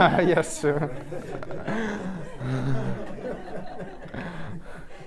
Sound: group laughing

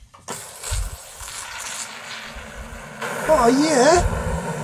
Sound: pot rumbling

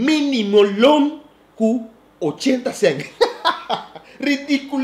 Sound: lauging

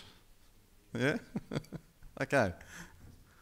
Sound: laughing

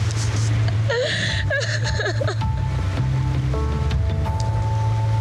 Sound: crying

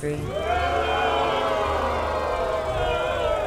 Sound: booing

